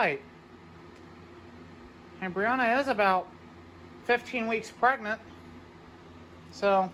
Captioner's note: normal voice